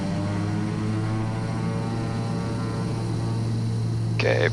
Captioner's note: propellers whirl